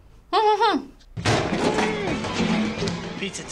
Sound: hums

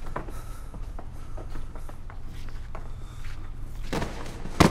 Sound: heavy breathing

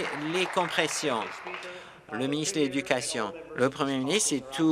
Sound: applause

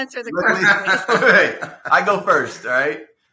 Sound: both laughing

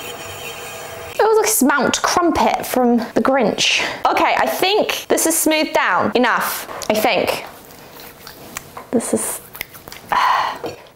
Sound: sighs

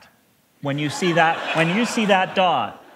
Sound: laughter

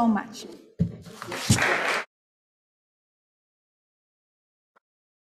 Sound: audience applauding

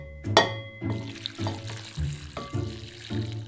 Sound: water pouring

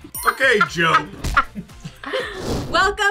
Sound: laughing

